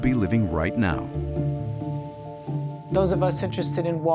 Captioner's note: particles crackle in the air